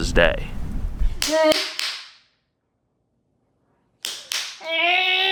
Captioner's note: clapping and yelling